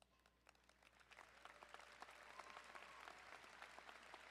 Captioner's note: crowd applauding